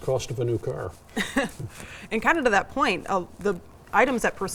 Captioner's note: laughs